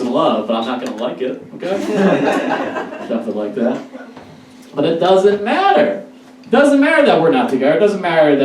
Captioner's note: audience Laughs